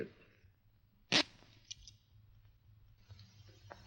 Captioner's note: handcuffs clatter